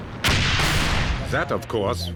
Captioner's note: tank turrets fire; tank turrets fires